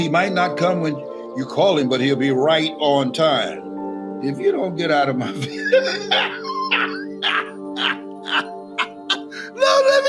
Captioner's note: Les laughs